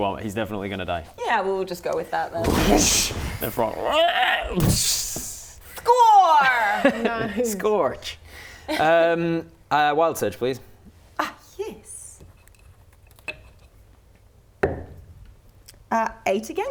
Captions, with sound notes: He's definitely going to die Yeah, we'll just go with that then *WHOOSH* The frog *ribbet scream* *boosh* Score! Scorch Wild Surge please Ah yes 8 again